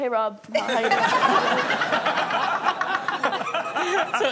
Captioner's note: laughing